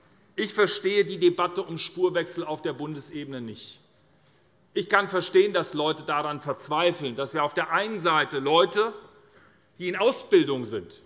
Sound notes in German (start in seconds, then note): none